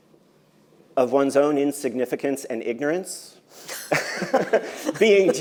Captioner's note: laughs